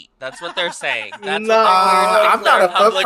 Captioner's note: laughs